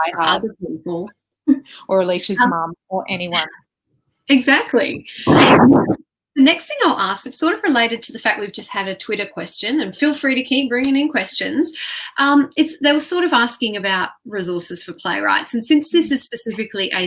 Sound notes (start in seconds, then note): 5.2 wind whooshing